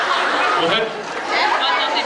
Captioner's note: laughing